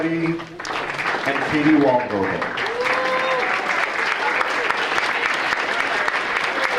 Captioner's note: audience applauding